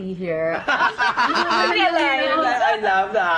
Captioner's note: laughs